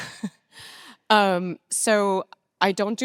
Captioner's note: chuckles